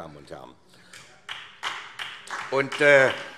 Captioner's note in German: Beifall SPD